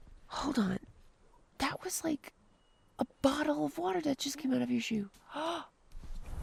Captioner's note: gasps